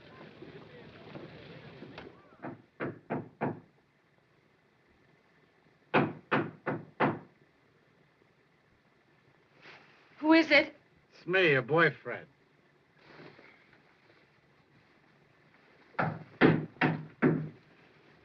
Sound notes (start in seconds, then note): 2.8 soft knocking at door; 5.9 louder knocking; 16.0 knocking loudly